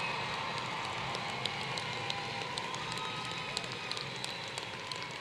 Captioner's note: applause